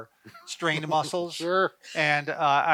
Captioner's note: laughs